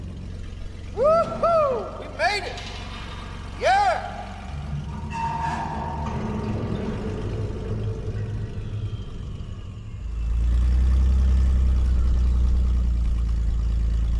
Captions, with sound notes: [echoing yell] Woohoo! We made it! YEAH!!!!! [eerie creaks/metal stress]